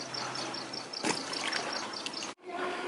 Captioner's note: boom, sound of throwing into the water